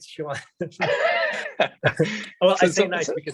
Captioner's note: laughing